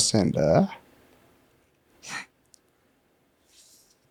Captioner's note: laughs